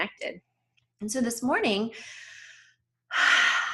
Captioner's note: deep breath